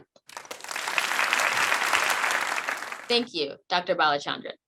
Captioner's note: crowd applauding